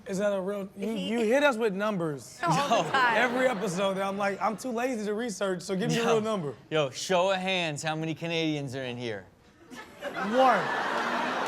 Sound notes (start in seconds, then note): 2.4 audience laughs; 9.7 audience laughs